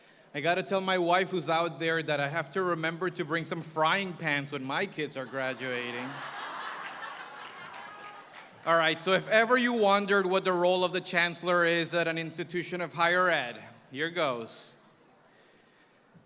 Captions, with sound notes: I got to tell my wife, who's out there, that I have to remember to bring some frying pans when my kids are graduating. [laughter] All right, so if ever you wondered what the role of the Chancellor is at an institution of higher ed, here goes.